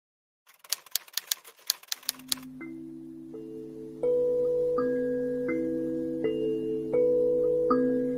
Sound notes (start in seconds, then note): 0.4 typewriter clattering; 2.3 calm orchestral music